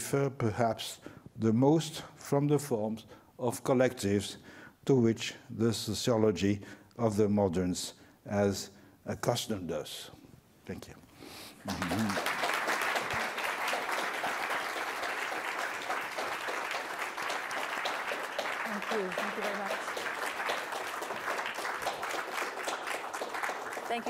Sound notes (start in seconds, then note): 15.3 applause